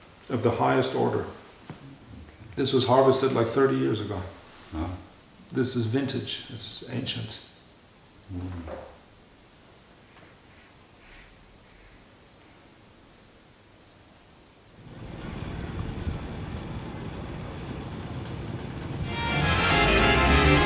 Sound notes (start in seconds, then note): 9.5 silence; 14.8 distant rumble of farm equipment